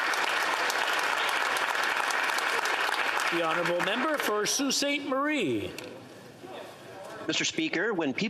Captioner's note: applause